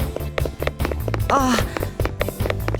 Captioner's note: gasp